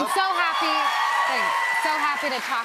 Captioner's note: cheers and applause